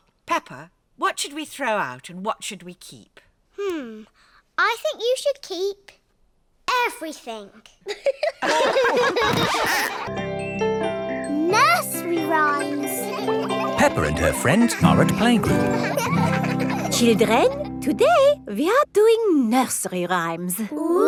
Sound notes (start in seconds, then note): 7.9 all laugh; 15.9 children laughing